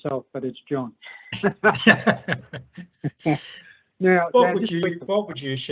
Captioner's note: laughing